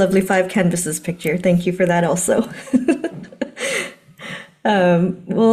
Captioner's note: laughing